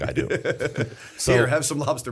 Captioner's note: laughter